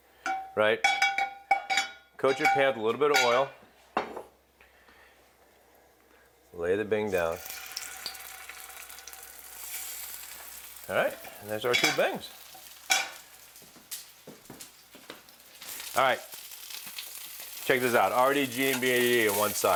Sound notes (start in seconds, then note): 7.4 sizzling